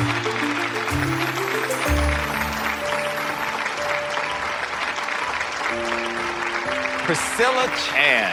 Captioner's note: audience clapping